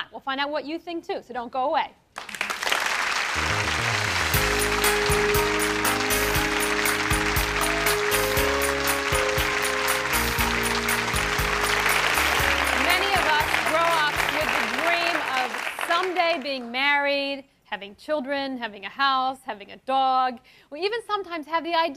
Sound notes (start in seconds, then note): 3.4 applause; 5.4 upbeat music